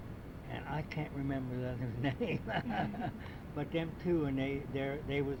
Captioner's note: laughs